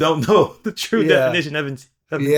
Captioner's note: laughing